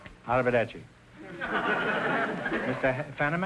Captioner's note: audience laughter